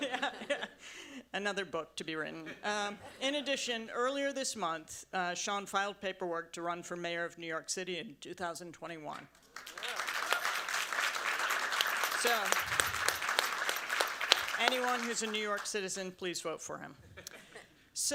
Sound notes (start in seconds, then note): 9.4 audience applauds